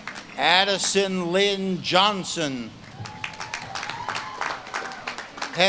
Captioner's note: audience claps and cheers